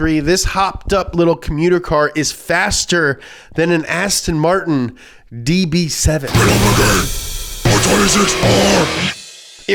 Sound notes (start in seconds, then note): 6.5 demonic Voice